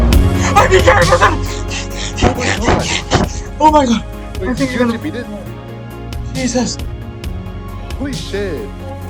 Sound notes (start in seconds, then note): 2.2 hyperventilating; 3.6 emotional Music